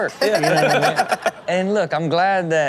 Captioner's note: Chanel and Sterling laughing